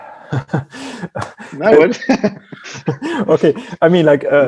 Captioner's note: laughing